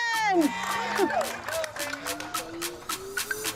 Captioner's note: cheering; upbeat music